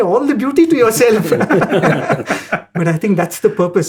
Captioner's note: laughter